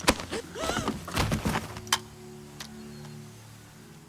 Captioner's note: woman gasps